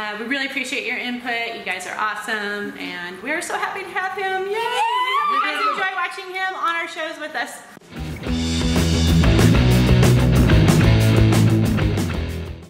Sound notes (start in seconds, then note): 4.6 screaming; 7.8 rock music